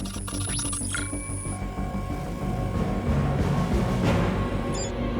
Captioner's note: device beeping; dramatic music continues